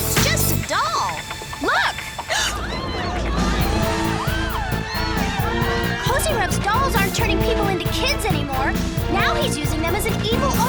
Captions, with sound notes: He tricked us. It's just a doll. Look. [gasps] [screaming] Kozyrev's dolls aren't turning people into kids anymore.